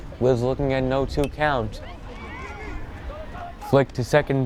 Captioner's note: bat pings